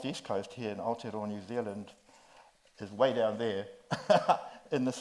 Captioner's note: laughs